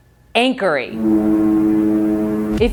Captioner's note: foghorn sound